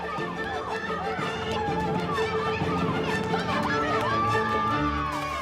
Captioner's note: orchestral music; crowd cheers